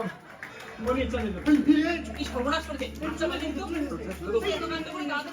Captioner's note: gong sound. Someone is at the door